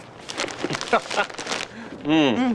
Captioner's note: laughs